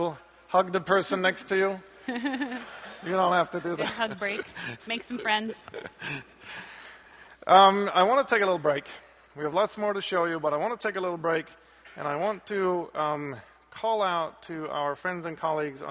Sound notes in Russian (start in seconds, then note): 2.0 смех